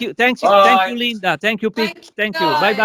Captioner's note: talking in italian